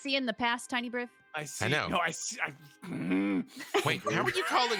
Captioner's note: grunts